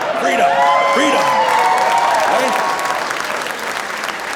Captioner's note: audience laughing; audience cheering; audience applauding